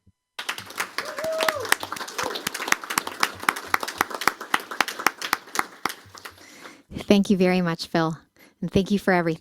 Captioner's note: applause